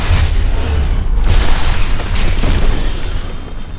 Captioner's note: explosion